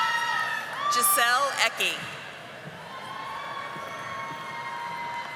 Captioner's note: audience applauding